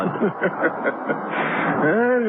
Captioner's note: laughing